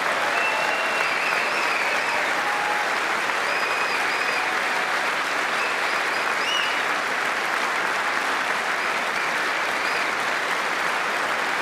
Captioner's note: applause